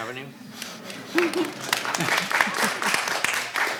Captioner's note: clapping